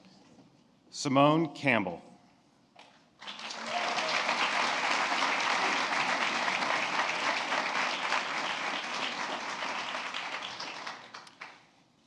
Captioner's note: applause